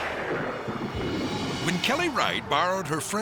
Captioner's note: lightning cracks